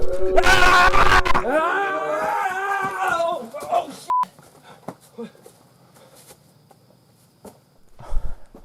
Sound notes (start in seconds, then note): 1.5 crooning stops; 4.4 panting